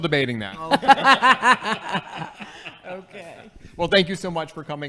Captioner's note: laughing